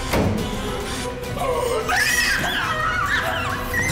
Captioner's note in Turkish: Çığlık atıyor